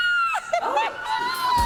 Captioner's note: laughs; squeals